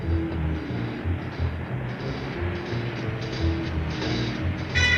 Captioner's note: car engine revving